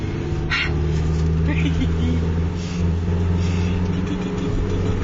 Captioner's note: laughing